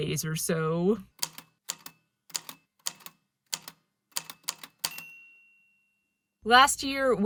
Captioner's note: A typewriter clicks away, then dings